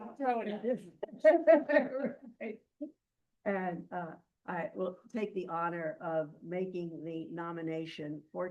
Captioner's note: laughing